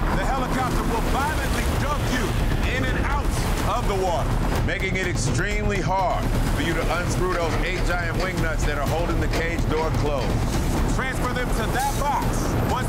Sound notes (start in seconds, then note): 3.9 water rushing; 11.8 helicopter rotors thumping